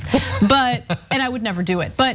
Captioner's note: laugh